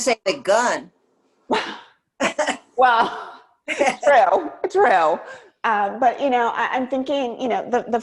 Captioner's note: laughs